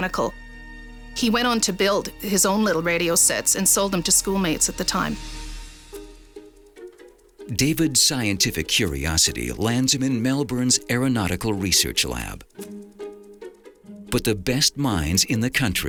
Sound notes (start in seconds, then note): 7.2 dramatic music; 7.2 fire crackling